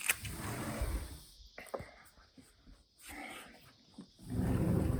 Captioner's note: glass door sliding open